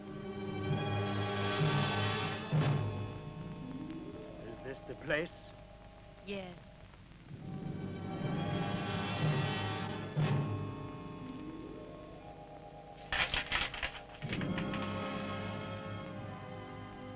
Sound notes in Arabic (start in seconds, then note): 0.1 موسيقى درامية; 7.8 موسيقى درامية; 13.5 سلاسل خشخشة